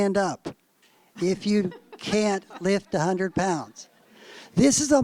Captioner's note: laughter